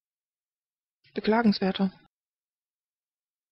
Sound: fast Pronunciation

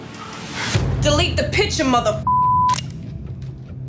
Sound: beep

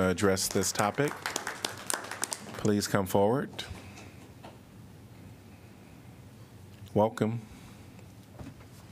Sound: applause

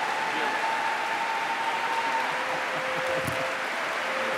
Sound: applause

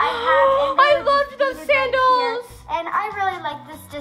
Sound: gasps

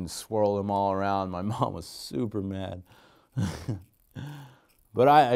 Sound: laughing

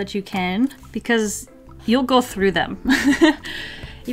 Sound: laughs

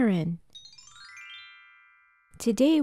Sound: chime Sound

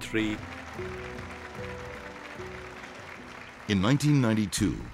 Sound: audience clapping

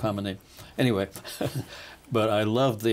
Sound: laughing

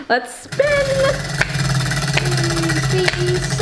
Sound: wheel clicking; clapping

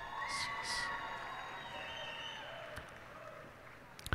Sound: cheers and applause

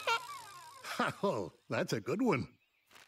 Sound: giggling; chuckling

